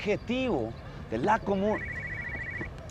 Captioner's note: the phone rings